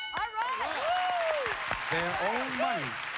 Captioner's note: cheers and applause